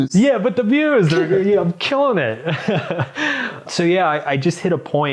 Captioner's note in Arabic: يضحك